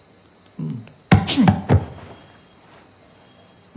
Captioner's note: scoffing